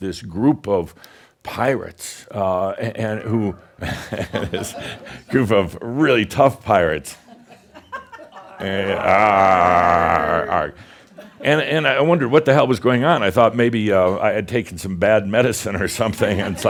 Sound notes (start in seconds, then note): 7.2 a few chuckles; 9.2 audience repeats “Aargh!”